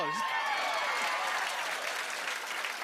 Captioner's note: cheers and applause